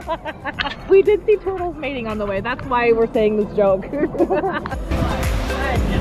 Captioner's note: laughter; laughter